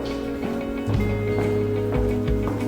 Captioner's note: footsteps receding - background music